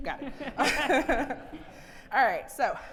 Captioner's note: audience laughing